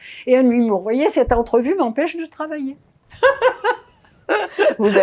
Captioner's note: laughing